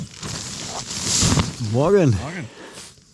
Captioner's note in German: Schnauben